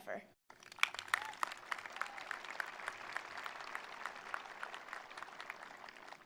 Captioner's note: attendees applauding; attendees cheering